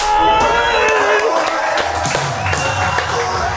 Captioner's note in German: Frustrierte Schreie